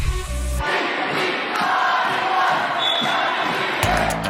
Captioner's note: students cheering; upbeat music